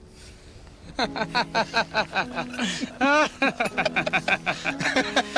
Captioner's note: laughs, comrades laugh